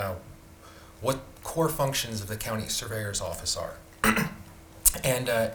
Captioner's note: clears throat